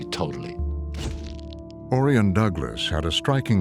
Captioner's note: shutter clicks